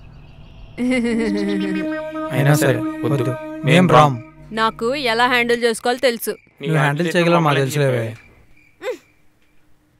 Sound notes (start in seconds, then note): 0.8 Subhadra giggling; 8.6 scoffs